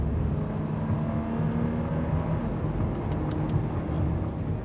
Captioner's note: engine revving